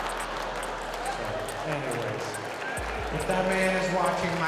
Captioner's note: audience laughing; audience laughing